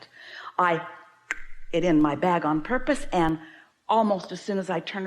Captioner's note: clicking sound